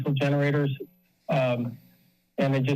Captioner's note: pause